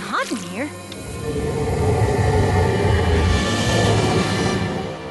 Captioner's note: rumbling